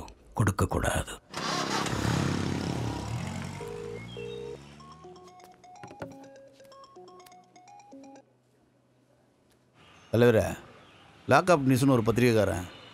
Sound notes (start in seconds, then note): 4.7 mobile ringing